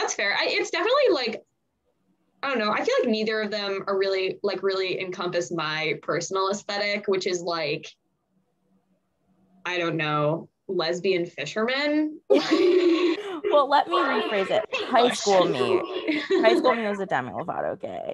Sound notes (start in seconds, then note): 8.9 laugh